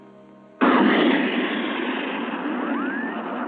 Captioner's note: spaceship whooshing